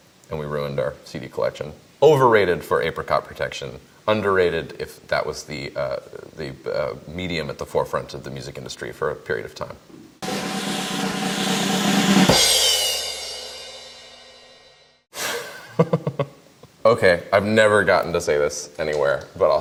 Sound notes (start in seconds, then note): 10.2 drum roll; 15.3 laughs